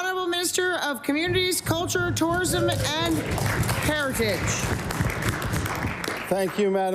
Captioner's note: some Applause